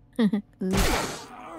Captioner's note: laughing